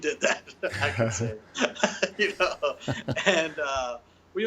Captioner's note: both chuckling